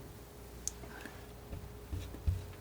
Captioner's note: tapping